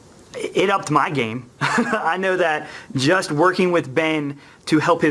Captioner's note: laughs